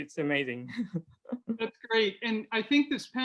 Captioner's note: laughs